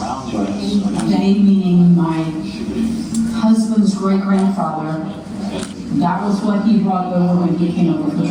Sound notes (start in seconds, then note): 1.5 female speaker in English